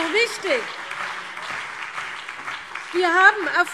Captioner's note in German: Beifall CDU und BÜNDNIS 90/DIE GRÜNEN